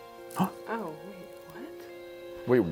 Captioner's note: gasps